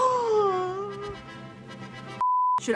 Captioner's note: gasping